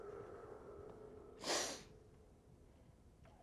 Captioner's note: sniffs